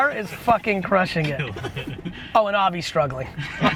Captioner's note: laughs